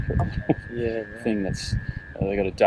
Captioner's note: chuckles